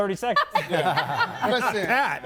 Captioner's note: laughs